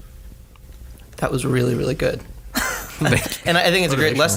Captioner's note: laughs